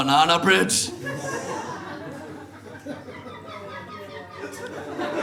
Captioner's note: audience laughs